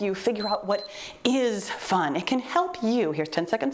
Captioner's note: timer beeps